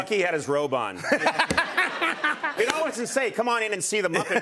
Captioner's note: laughs